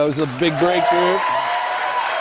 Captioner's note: cheers and applause